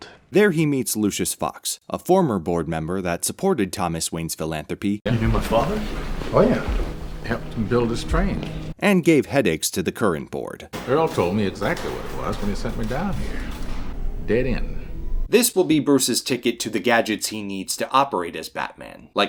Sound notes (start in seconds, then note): 13.7 echoing clicks as lights turn on